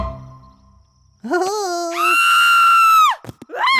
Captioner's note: screaming